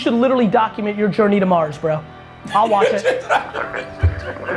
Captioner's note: laughs